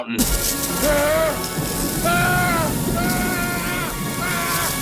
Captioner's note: screaming